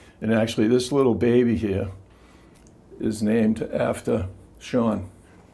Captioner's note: none